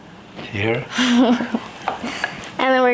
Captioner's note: chuckling